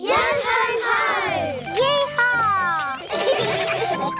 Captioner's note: all giggle